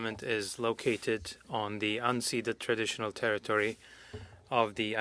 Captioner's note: speaking French